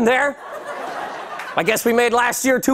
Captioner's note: laughter